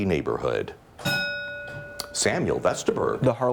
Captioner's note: bell ringing